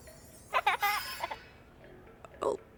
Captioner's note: children Laughing